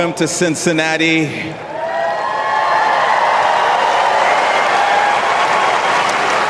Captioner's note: applause Cheers